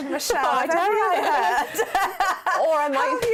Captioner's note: laughter